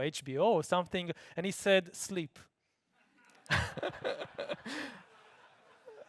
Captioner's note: laughing